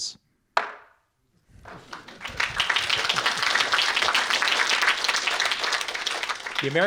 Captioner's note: audience applauding